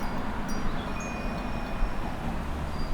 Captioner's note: wind chimes tinkling